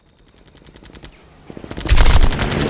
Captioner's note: aircraft whooshing; guns firing